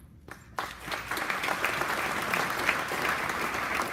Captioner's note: applause